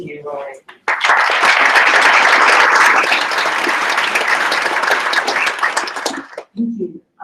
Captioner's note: applause